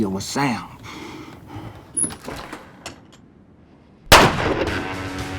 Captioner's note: gunfire